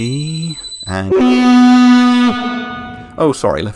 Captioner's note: fog horn of Spoiler warnings